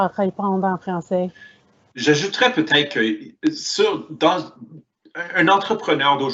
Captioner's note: speaks in foreign language